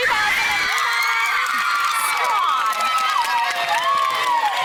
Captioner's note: women cheering